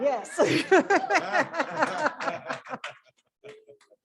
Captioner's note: laughter